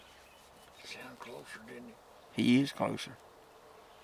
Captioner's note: whispers